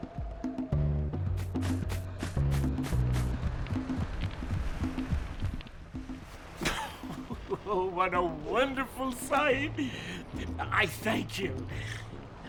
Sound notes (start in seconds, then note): 6.6 chuckles